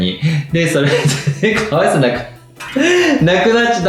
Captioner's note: laughs